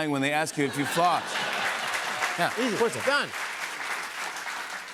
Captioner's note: laughter, applause